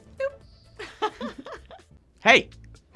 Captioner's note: laughter